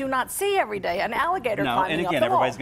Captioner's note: laughing